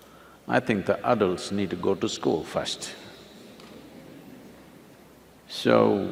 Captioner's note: few laugh